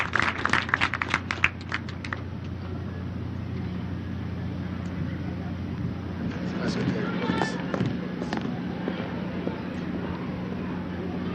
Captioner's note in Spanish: aplausos